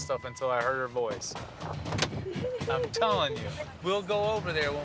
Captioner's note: chuckling